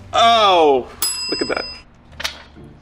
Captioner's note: bell dings